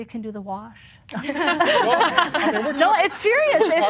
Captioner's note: laughter